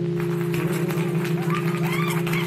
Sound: small crowd cheering

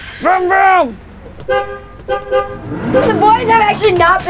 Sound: bus horn honking

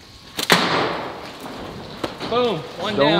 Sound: thudding clay shot

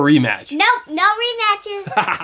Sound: voiceover; laughter

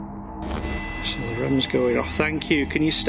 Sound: machine buzzing

